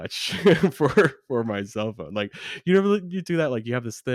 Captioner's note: laughs